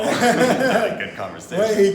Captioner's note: laughing